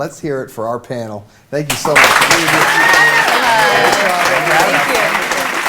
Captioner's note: cheers and Applause